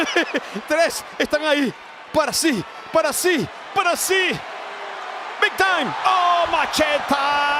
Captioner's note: laugh